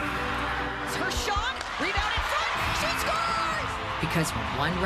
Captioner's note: sports commentary